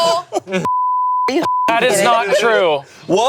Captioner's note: group laughing; beep